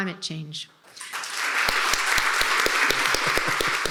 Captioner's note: attendees and moderators applauding; laughing